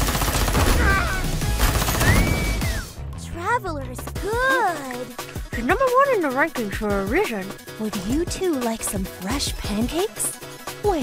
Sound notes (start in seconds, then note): 2.0 whistles